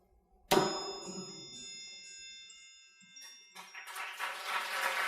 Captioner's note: bell dings; crowd cheering